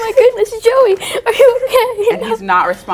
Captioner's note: whimpering